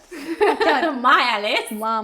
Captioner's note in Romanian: fetele râd